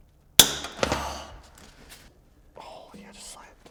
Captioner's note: hose snaps